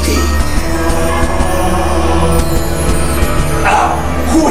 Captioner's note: bells and prayers